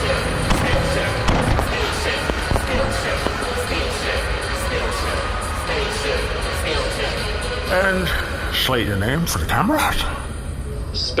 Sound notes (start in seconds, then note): 2.6 cheering, chanting